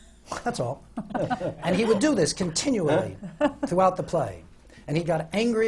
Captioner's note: laughter from the panel